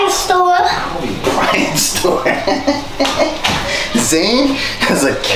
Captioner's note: laughs